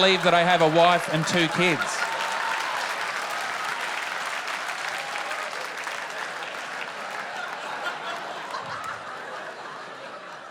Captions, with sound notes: You don't believe that I have a wife and two kids? (APPLAUSE)